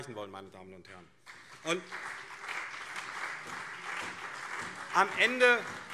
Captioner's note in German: Beifall CDU und SPD